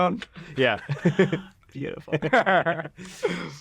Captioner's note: chuckles